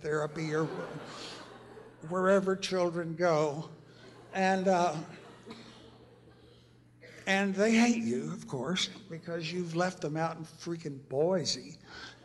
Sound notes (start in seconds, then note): 0.1 laughter; 3.9 laughter; 11.8 laughter